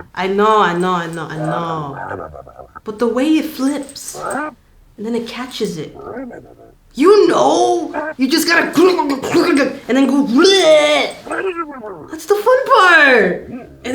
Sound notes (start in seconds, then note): 5.9 grumbling